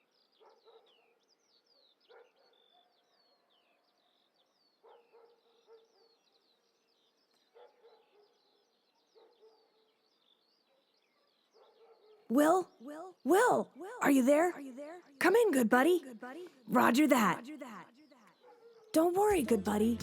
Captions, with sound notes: (birds chirping) Will? Will, are you there? Come in, good buddy. Roger that. Don't worry, good buddy.